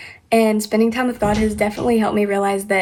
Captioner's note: thudding